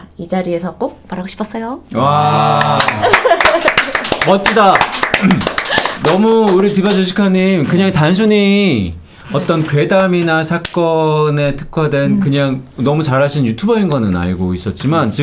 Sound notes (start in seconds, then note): 2.5 Applause for Team Deeva Jessica